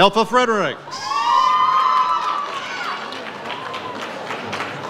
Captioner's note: audience cheers